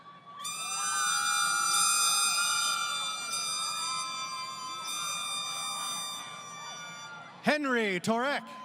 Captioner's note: crowd Cheering